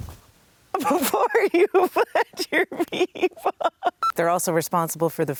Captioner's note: laughing